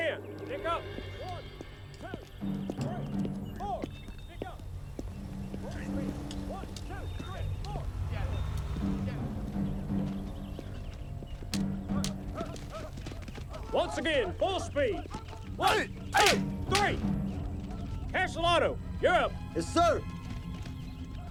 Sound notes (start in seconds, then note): 15.5 sticks clacking